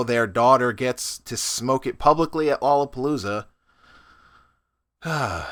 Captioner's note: sigh